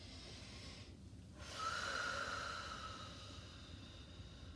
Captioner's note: breathing deeply